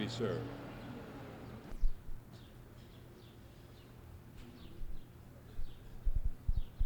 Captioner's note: ambient room noise